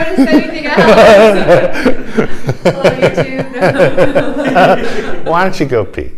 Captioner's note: laughter